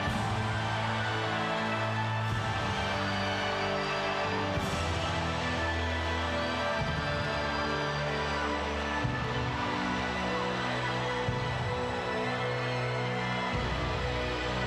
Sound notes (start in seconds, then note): 3.3 crowd cheering continues; 3.3 somber music continues